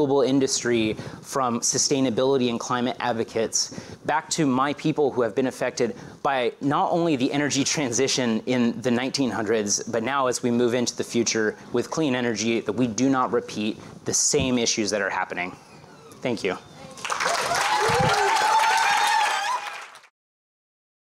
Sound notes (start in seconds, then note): 16.9 applause